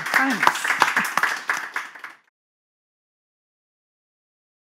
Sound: audience claps

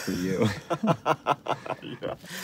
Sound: laughs

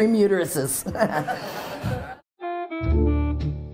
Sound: crowd laughing; jazz music

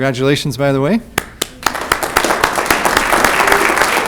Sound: clapping

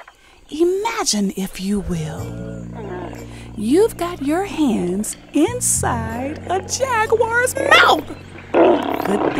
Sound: growl

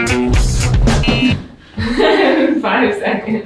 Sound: buzzer beeps; laughing

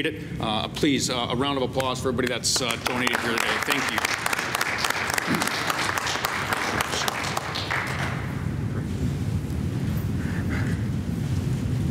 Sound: applause

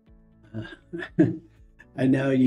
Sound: chuckles

